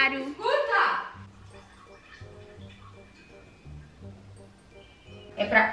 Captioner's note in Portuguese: barulho de xixi